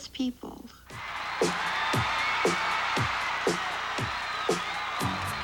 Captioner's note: audience cheers, " " plays